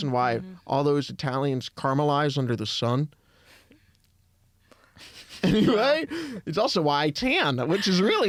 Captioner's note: laughs